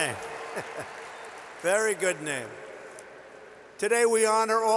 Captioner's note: applause